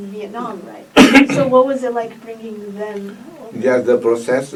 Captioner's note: coughs